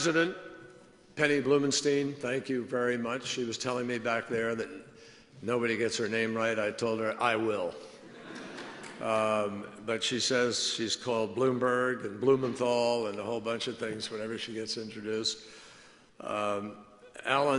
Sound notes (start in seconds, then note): 8.0 laughter